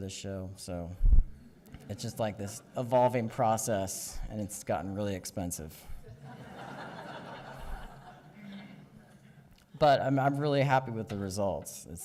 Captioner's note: audience chuckles